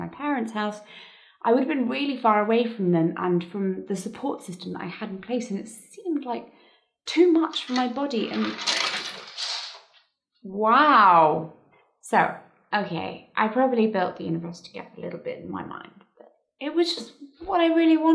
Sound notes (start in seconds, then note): 7.5 lights fall